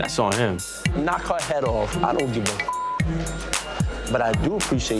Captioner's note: beep